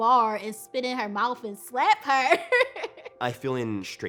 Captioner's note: laughing